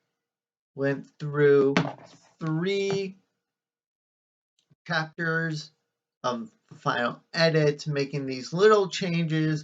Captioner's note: clank of phone hitting the desk